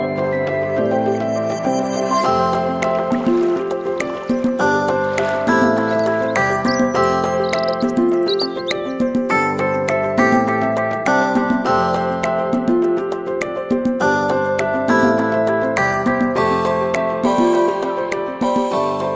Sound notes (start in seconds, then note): 2.3 water trickling; 7.8 birds chirping; 13.2 light upbeat music